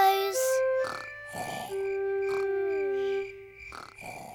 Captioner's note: george snoring